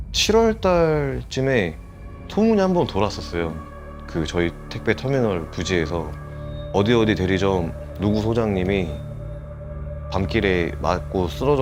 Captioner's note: voiceover